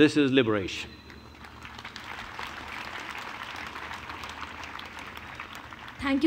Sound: applause

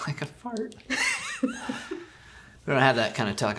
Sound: laughs

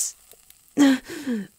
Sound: gasping in agony

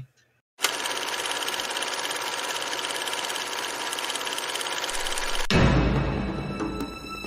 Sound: film reel running

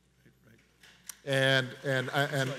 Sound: audience applauds

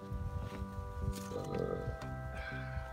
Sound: loud belch

